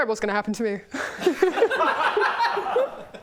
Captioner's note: hostage laughter